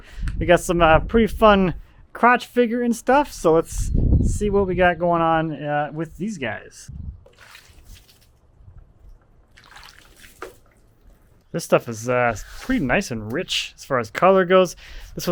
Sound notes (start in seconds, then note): 7.2 water splashing